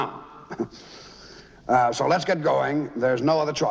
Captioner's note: laughing